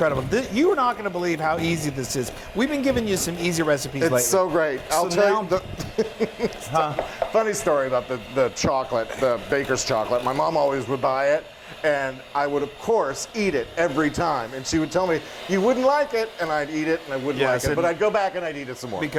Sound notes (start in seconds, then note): 5.4 laughing